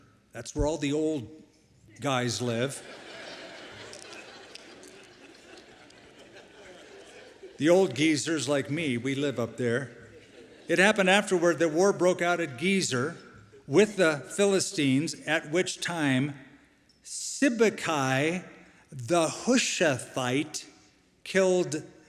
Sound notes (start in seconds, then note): 2.7 laughter